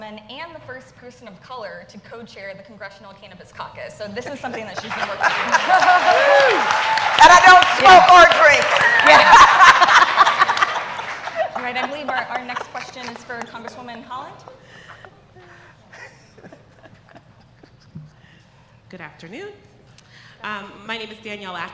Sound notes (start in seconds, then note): 9.6 applause; 10.5 laughter